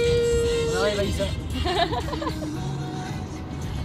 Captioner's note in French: rire